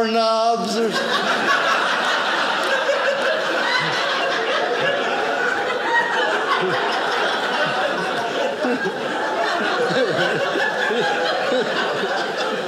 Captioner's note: audience laughing